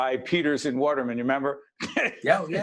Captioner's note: laughing